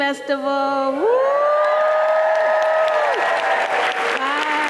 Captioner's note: cheering